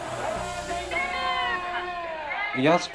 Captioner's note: protestors shouting in Japanese